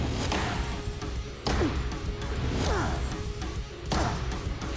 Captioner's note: tense music playing; grunting